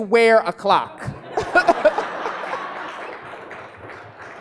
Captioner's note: laughing